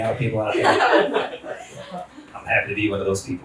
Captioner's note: everyone laughs